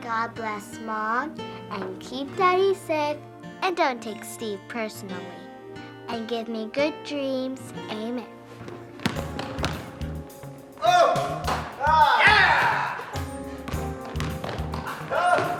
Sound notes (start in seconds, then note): 8.8 upbeat music; 9.0 ball tapping